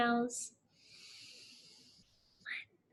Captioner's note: lightly inhales